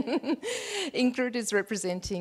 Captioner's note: laughs